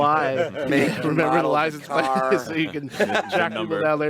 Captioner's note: group chattering